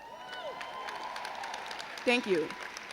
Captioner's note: crowd cheers